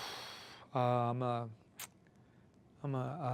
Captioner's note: exhales